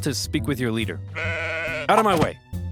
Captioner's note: sheep baaing